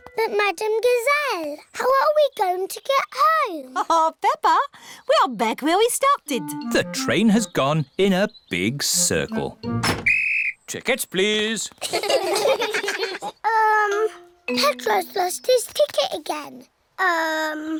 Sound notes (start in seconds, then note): 9.9 blows whistle; 11.8 all laugh